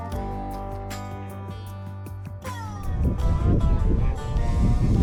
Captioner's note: wind rustling